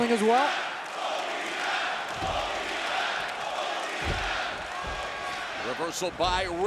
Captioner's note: crowd chants "Both these guys"